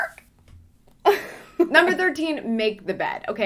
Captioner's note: laughing